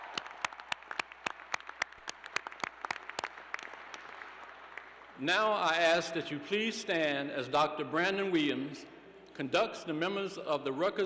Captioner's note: cheers and applause